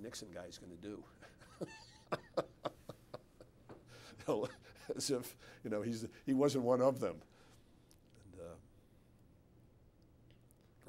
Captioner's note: laughs